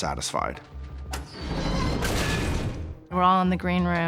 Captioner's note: crashing